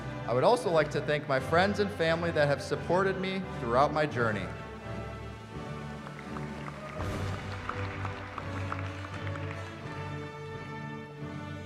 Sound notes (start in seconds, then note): 5.5 applause